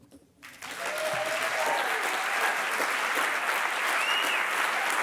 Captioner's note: audience applauding